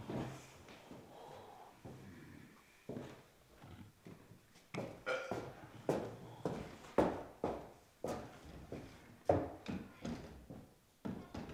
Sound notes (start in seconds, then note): 5.0 belches